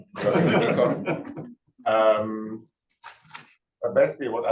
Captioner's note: chuckles